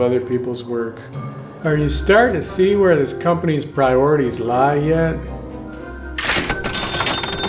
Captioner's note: cha-Ching